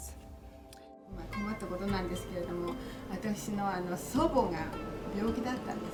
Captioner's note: speaking in foreign language